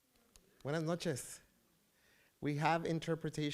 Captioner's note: foreign language